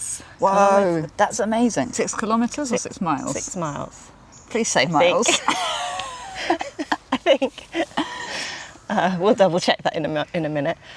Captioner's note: giggles